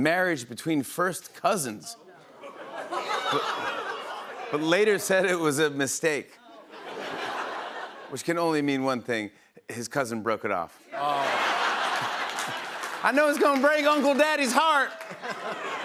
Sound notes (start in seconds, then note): 2.2 laughter; 6.4 laughter; 11.0 laughter and applause